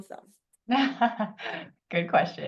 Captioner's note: laughs